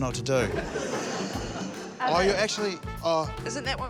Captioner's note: both laugh